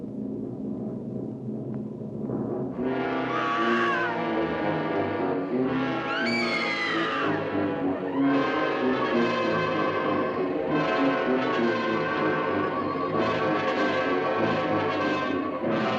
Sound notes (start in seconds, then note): 3.2 screams; 5.5 loud fast-paced music